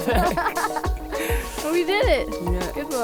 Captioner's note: laughs